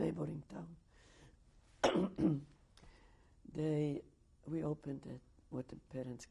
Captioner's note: pauses for 3 seconds